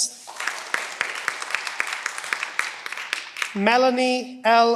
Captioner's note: cheering